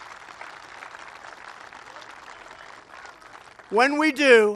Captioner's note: applause